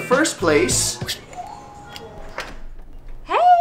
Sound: bell tone

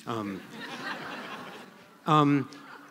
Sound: laughter

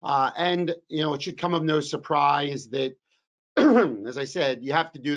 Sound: coughs

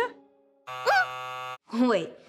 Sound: buzz sound

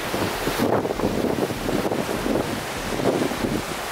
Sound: wind blowing

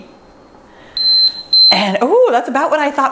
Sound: timer beeps

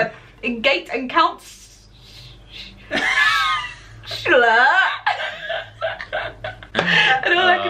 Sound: laughter

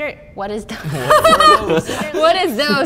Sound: laughing

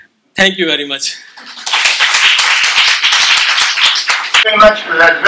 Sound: applause

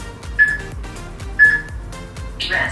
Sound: peep

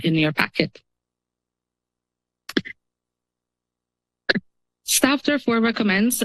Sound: pause

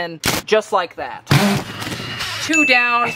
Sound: drill whirring

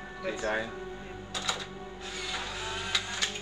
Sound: camera snapping

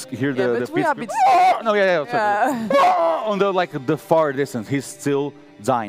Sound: screams

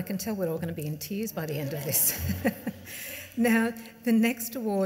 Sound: laughs

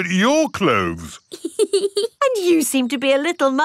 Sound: laughs

